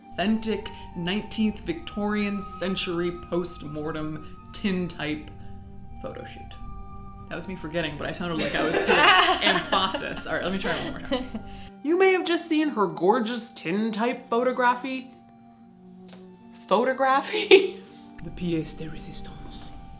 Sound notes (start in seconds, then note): 8.4 group laughing